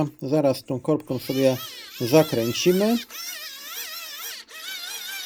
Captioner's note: crying